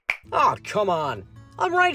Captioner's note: finger snaps, followed by TV turning off and some rubber stretching noises